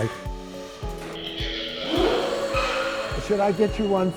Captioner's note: lift's pump vibrates 'vroomph'